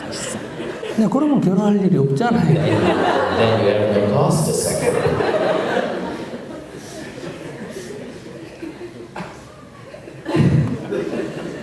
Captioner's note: audience/Questioner Laughter; audience Laughter